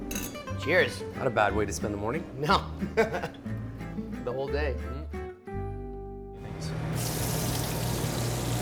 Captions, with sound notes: - Cheers! - Not a bad way to spend the morning! - No! (laughs) The whole day.